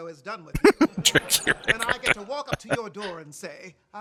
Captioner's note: laughing